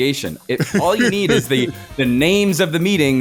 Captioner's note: laughing